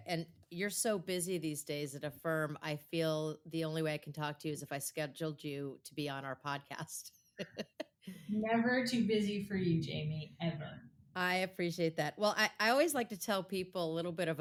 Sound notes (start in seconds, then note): 7.4 laughs